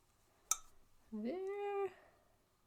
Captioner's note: cup-tinks